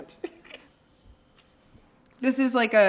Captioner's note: laughing